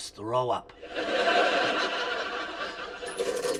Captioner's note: laughter